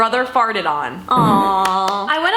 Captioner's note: clapping